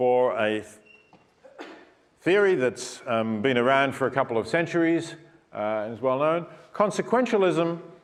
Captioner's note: cough